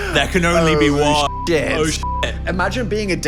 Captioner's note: beep